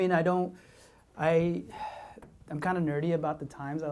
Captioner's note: sighs